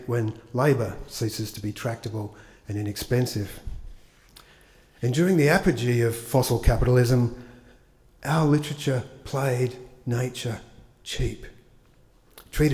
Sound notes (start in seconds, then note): none